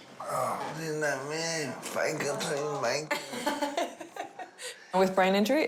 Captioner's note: laughs